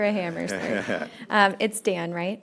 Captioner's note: laughter